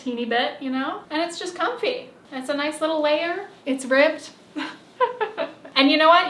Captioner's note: laughs